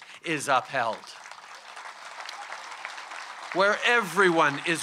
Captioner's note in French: Applaudissements